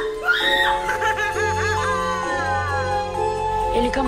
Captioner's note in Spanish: risas de madam tanorima